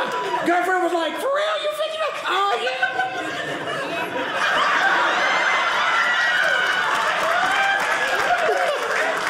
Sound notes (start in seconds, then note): 2.4 audience laughing